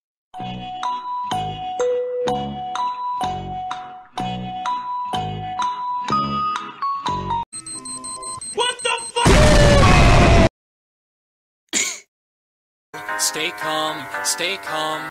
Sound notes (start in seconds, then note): 7.6 cheep high; 11.8 coughs